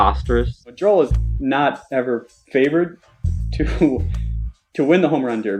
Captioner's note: laughs